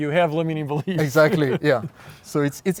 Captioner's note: laughing